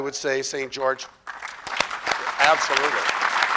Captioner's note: crowd applause